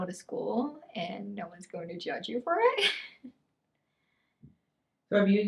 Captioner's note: laughs